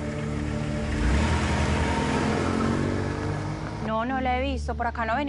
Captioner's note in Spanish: Sonido del motor